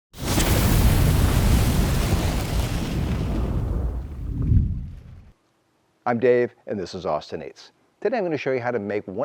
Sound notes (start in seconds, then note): 0.1 flames roaring